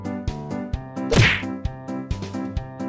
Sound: smack

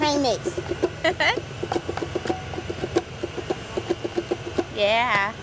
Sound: laughs

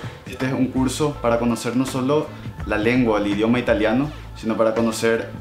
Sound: in Spanish

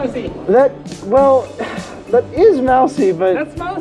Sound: sigh

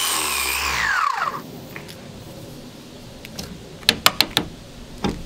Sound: metal clanking

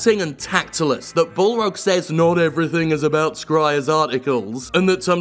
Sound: mocking

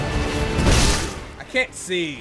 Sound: sword strikes

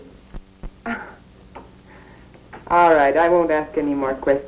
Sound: chuckles

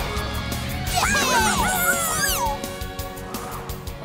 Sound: cheering

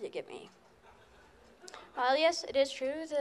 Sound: laughter

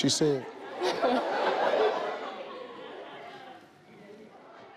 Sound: crowd laughs

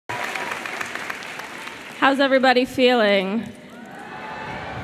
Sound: applause

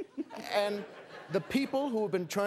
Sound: laughter

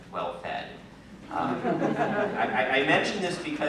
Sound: laughter

